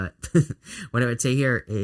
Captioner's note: chuckling